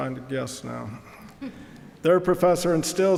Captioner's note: audience chuckling